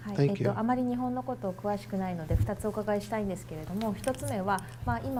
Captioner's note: speaking foreign language